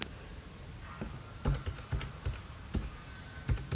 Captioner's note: typing on calculator